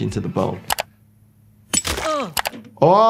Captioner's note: mouse clicking; hammer clinking; victim grunting